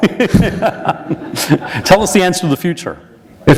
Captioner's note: laughter